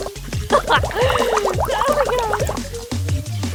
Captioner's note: laughs maniacally